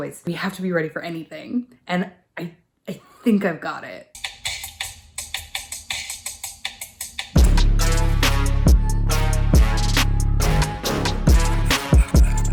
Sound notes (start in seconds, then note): 4.2 cucumber drumming; 7.5 montage music